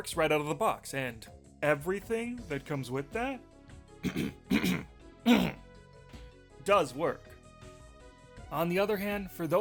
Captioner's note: clears throat